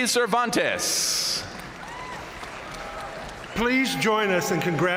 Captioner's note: audience cheering and applauding